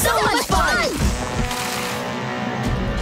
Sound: horn blasting

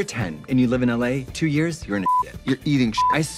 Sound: beep

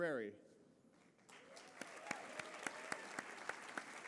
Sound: applause

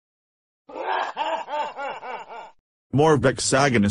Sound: evil laugh

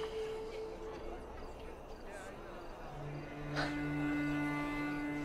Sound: group chattering

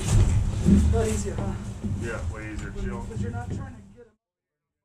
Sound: firefighters murmuring

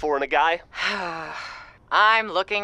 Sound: sighs

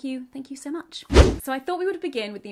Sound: air whooshing

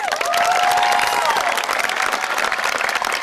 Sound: applause

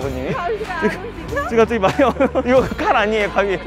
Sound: haha

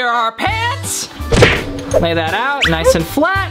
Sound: cartoonish smacking

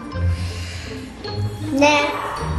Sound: sighs

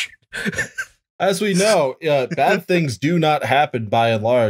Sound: laughter

